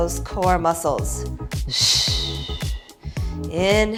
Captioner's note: exhaling